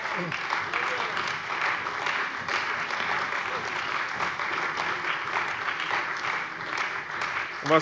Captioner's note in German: Beifall bei der CDU und dem BÜNDNIS 90/DIE GRÜNEN